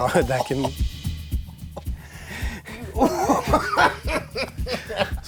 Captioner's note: painful laughing